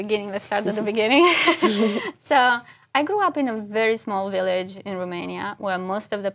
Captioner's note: laugh